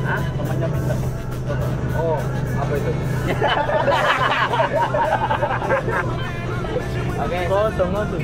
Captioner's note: laughs